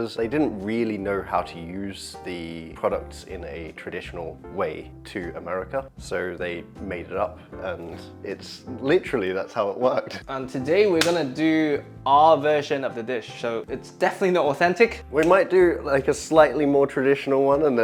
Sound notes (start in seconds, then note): none